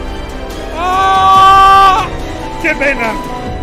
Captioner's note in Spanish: grita